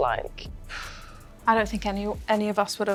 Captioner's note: Leah exhales